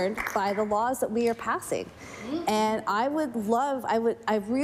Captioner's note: some Applause